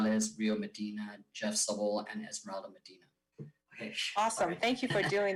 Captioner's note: speaks faintly